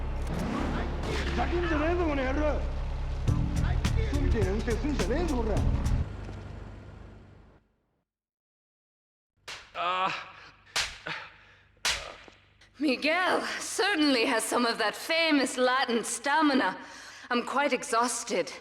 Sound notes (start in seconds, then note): 9.8 muffled yelling